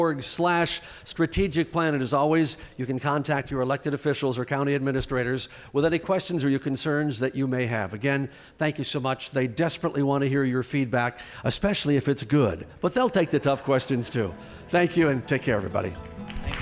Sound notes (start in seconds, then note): 15.5 applause